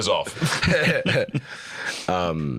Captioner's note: both chuckling